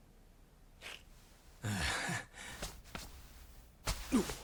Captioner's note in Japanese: 鼻息